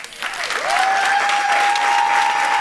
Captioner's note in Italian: Applausi